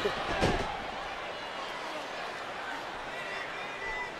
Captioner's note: crowd clamoring